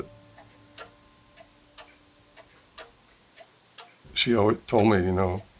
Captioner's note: clock ticking